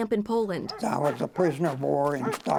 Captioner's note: dog barking